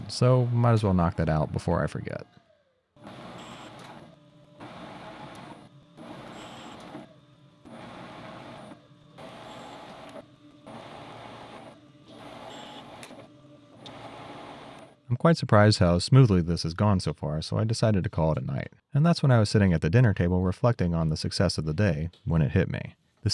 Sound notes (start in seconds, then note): 2.9 machine whirring